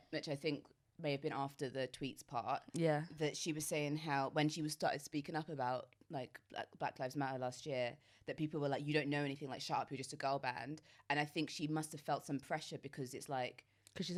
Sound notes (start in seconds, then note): none